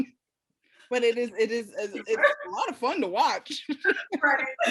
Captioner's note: laughs